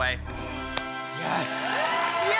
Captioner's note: triumphant music; group gasps; group cheering and clapping